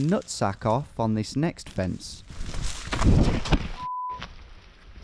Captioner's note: beep